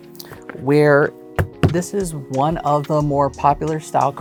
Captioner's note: thumping cards